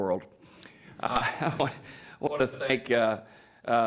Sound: chuckles

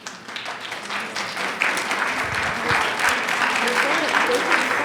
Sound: attendees clapping

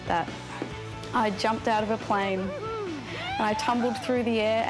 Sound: both cheer, whoop

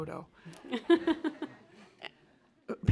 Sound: laughter

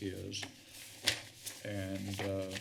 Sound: paper shuffling

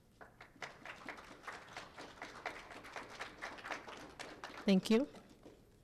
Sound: applause

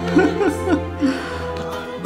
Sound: calming music; laughing

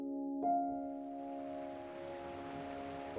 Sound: running water

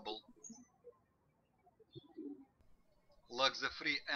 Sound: birds chirping

